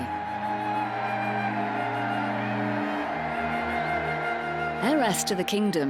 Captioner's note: crowd cheering; gentle music